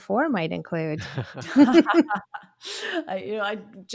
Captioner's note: all laughing